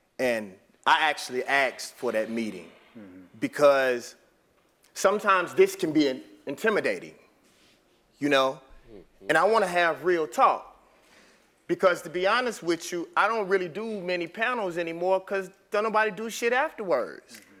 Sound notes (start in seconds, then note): none